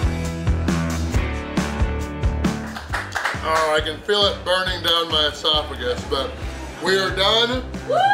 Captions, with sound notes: (crowd claps) Oh, I can feel it burning down my esophagus but, we are done!